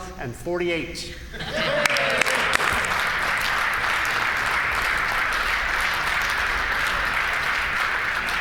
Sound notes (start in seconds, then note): 1.6 applause